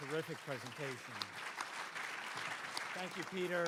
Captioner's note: audience applauding